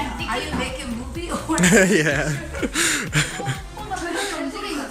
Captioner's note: laughs